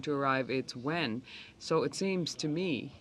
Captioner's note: speaking French